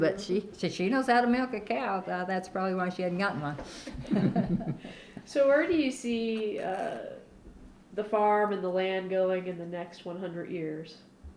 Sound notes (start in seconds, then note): 3.8 laughter